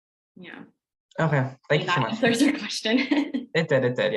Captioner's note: laughs